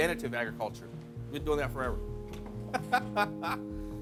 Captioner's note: laughing